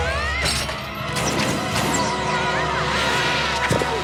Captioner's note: intense music; screams